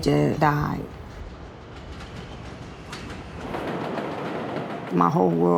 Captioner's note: train approaches